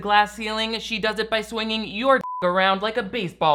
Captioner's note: beeps